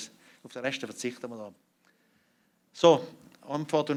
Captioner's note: non-english speech